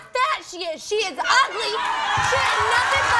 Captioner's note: audience cheers